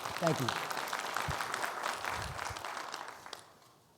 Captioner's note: attendees applauding